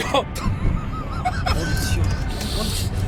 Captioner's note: laughing